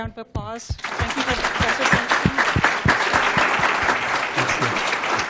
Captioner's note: applause